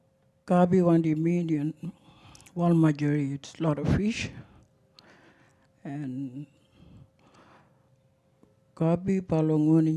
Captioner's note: speaks foreign language